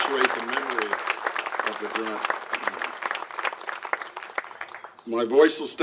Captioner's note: applauses